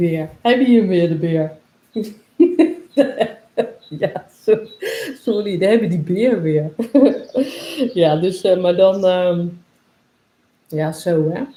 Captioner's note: laughs